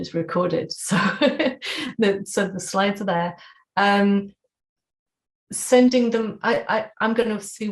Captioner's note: laughter